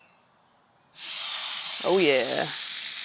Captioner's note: bacon sizzling